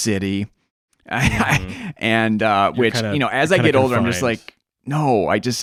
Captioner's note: laughs